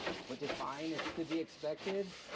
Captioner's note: brush scraping